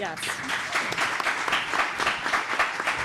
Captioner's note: applause